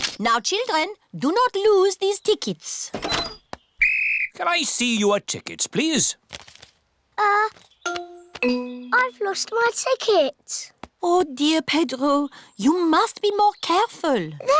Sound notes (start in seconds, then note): 3.8 blows whistle